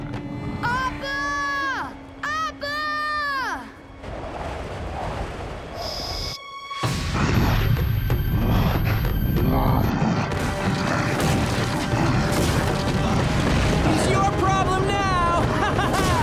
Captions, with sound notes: Appa! Appa! [grunting] He's your problem now! [laughing]